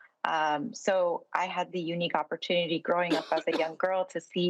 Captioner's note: coughs